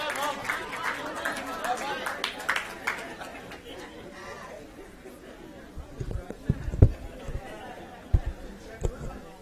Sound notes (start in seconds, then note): 2.9 laughter